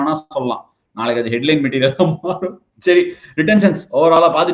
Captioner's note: laughs